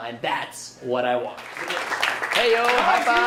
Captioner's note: audience clapping